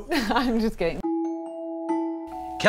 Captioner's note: laughs